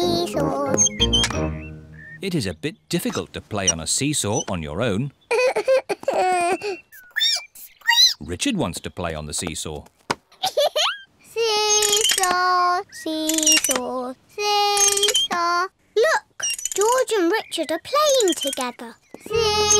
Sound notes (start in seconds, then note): 5.3 sobs; 7.5 squeaks; 10.4 giggles